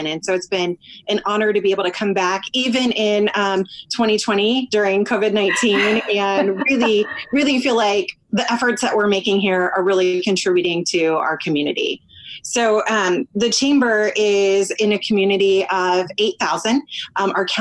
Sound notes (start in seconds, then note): 5.2 laughs